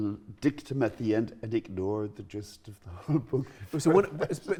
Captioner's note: laughs